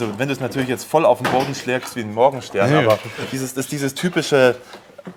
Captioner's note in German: räuspern